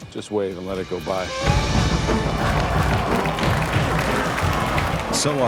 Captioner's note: murmúrios simpáticas